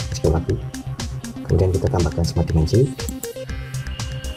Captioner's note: click